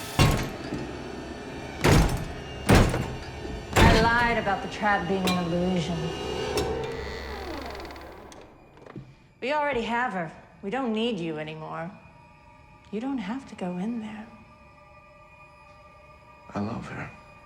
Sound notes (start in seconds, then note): 0.0 door lock clanging; 6.3 door creaks